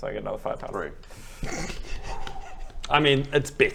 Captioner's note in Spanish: todavía riéndose en el fondo